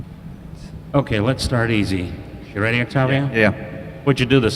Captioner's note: none